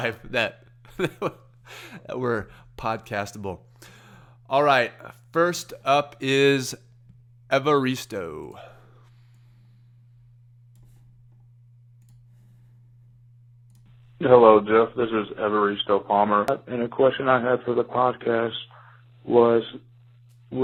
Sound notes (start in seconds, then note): 0.0 laughs; 9.6 mouse clicks